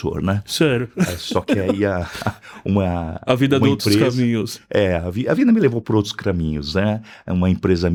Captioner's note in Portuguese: risadas